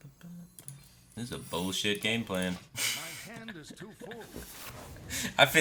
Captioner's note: laughs